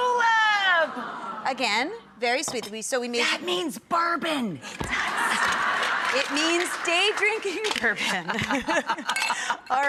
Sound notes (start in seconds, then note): 4.8 audience laughing; 8.1 laughing